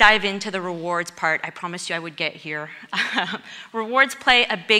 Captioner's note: laughs